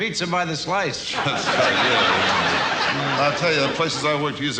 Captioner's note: audience laughs